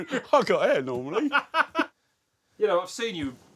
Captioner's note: both laugh